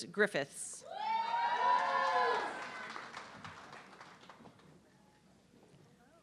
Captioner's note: audience clapping and cheering